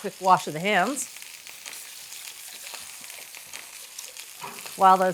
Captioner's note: pan sizzling